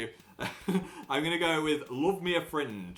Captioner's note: laughs at own joke